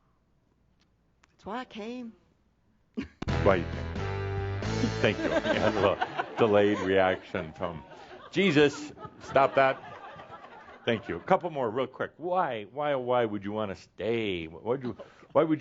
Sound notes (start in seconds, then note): 4.8 they chuckle; 9.4 more chuckles